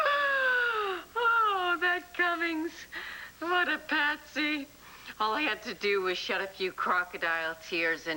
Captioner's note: allison laughs